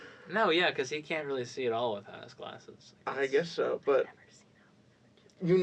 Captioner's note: whispers